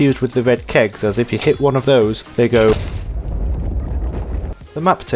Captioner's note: explosion